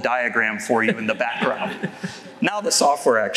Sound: laughter

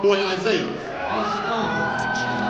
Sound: cheering

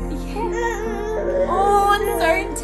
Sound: child gibberish

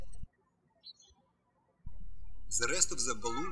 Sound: birds chirping

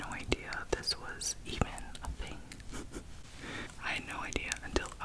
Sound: chuckles softly

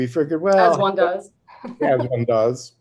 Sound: laughs

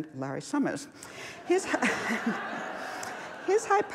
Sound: laughs

